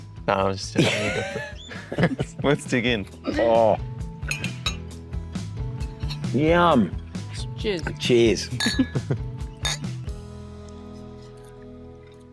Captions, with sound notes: No, I'm just joking. You go for it. (ALL LAUGH) Let's dig in. Oh! Yum! Cheers. Cheers. (LAUGHTER) (GLASSES CLINK)